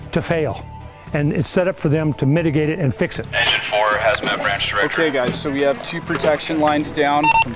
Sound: radio

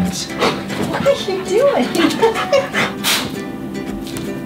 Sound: laughs

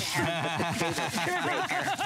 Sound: laughter

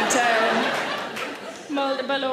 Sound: audience laughs

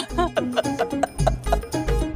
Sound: laughing

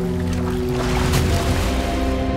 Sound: splashing

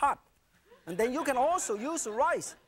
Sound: audience laughing

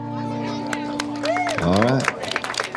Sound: indistinct chatters; audience clapping

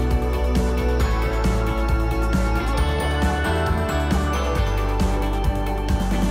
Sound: clap

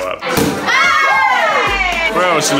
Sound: loud cheering; popping bottle

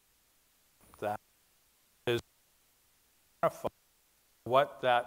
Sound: mic breaking up

